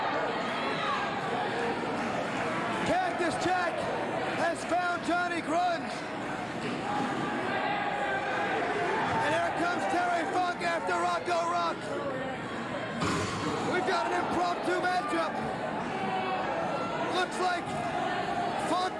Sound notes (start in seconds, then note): 15.5 cheers and applause